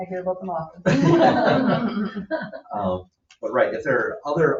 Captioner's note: laughing